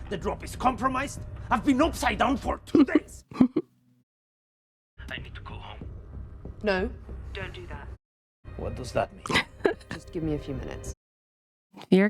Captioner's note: laughter